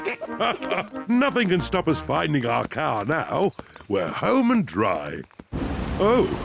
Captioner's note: snorts and giggles; laughs